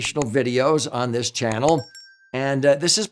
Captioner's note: bell chimes